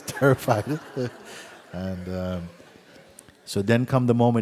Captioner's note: laughter